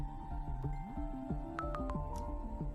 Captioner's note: chimes